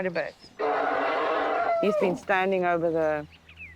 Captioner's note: grunting